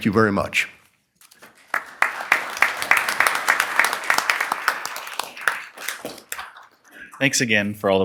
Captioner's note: applause